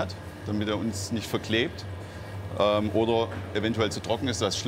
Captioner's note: none